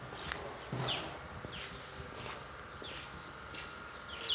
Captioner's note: birds chirping